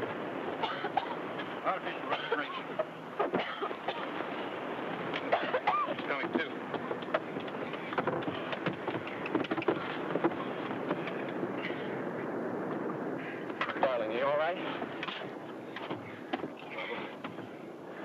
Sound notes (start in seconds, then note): 0.6 coughs; 9.1 footsteps shuffle